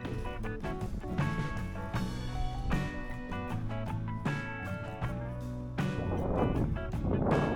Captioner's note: wind Blowing